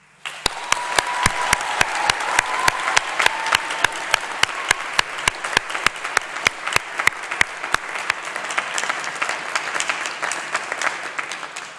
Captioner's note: applause